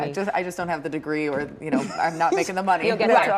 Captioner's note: laughter